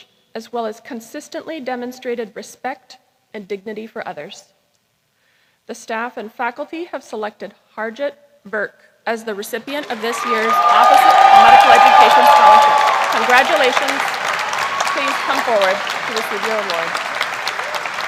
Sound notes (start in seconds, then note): 12.7 cheering; 13.8 applause